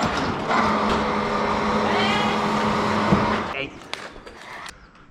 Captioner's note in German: maschinengeräusche